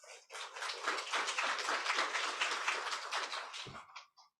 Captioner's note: crowd applauds